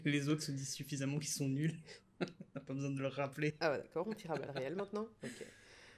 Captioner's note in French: rires